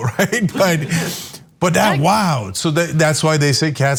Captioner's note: laugh